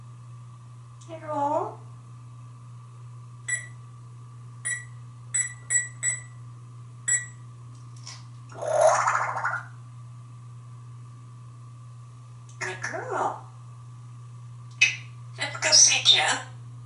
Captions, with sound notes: You are ...? [Electronic short beeps] [Water gurgle sound] Good girl. Let´s go see Jeff.